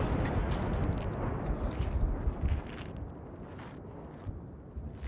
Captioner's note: explosions